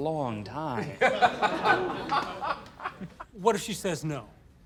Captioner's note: laughter